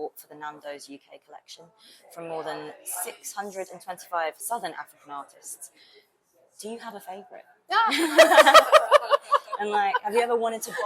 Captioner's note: laughs